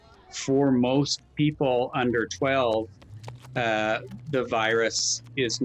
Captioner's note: feet clattering